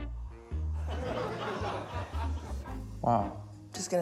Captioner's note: laughter